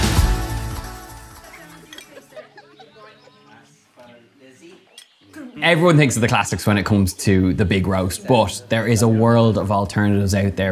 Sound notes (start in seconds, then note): 1.4 laughing; 2.4 birds chirping